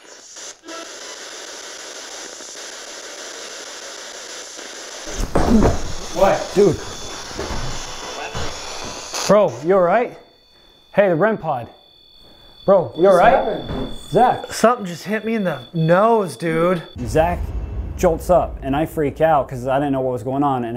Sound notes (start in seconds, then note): 0.2 static; 5.1 groans